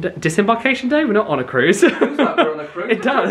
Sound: laughs

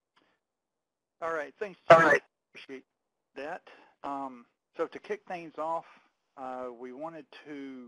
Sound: audio feedback

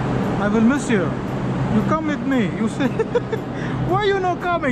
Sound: laughing

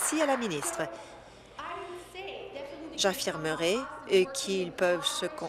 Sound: applause

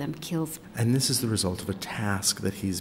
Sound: voiceover

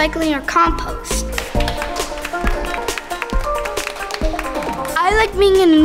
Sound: applause

